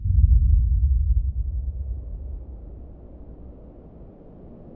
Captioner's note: rumbling sound; wind whistling